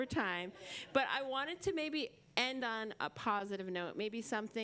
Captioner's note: laughter